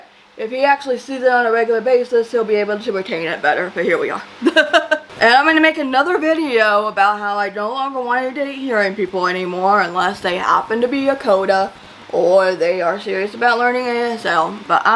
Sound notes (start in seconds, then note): 4.3 laughs